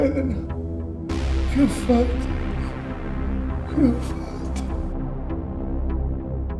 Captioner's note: whimpering